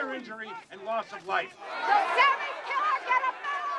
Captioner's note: crowd grumbling